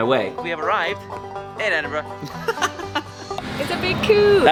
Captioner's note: laughing